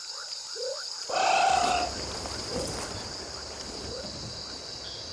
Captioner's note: animal vocalizing